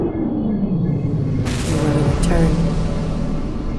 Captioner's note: explosion booming